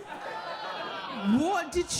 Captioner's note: audience laughing